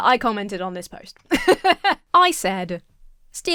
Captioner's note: laughs